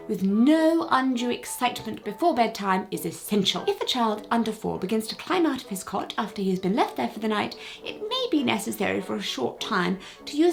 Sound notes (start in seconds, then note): none